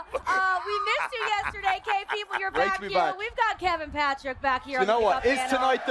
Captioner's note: laughter